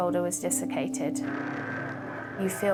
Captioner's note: pensive music; boat droning